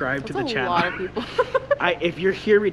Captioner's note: chuckles